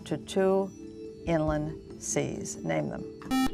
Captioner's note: buzzer